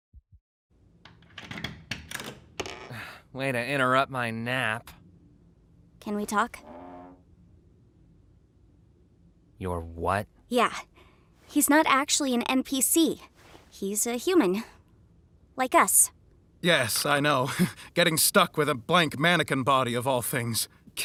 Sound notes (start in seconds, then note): 1.1 door latch clicks; 2.9 sighs; 17.4 laughs ruefully